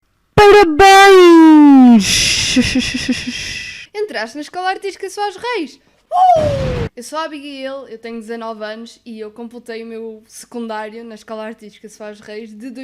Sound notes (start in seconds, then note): 6.4 explosions lmao